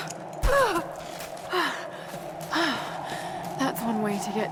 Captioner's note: wind howling; Lara grunts and pants